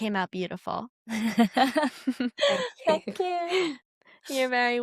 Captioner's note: laughs and smiles